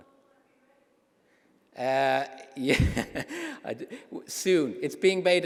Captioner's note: laughter